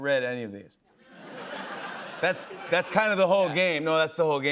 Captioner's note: laughter